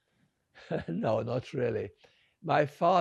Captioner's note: laughing